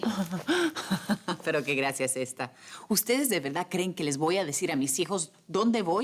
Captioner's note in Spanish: Ríe